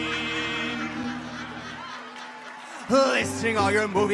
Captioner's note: audience laughs